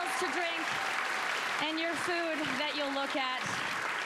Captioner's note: applause